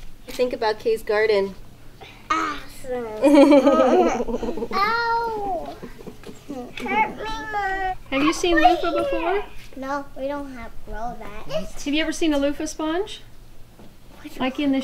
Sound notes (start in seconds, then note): 3.2 mom giggles; 5.7 mutters